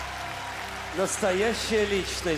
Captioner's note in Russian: аплодисменты